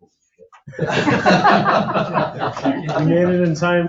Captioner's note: people laugh